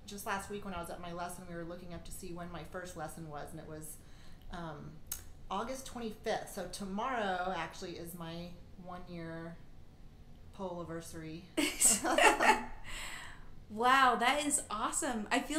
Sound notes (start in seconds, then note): 11.8 laughing